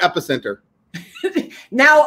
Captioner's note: laughing